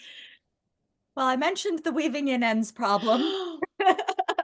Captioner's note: laughs